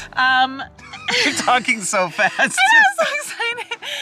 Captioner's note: chuckles